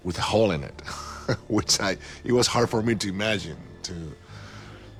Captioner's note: chuckles